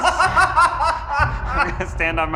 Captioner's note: laughing